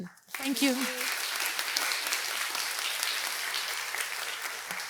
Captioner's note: audience applauding